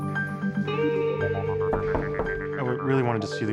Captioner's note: knocking at door